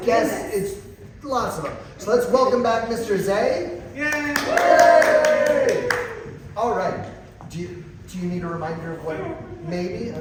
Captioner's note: applause